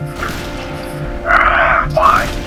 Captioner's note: groans of frustration